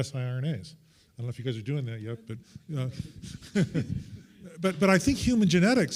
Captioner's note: chuckles